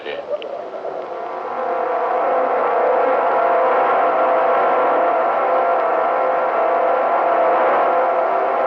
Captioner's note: wind howling